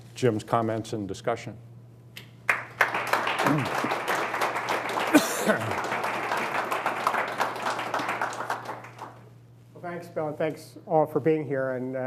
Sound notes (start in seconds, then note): 2.4 applauding; 5.0 coughing